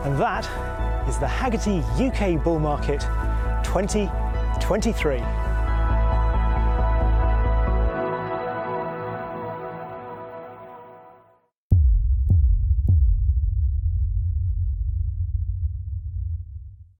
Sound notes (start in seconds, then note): 7.3 upbeat music; 11.8 text thumping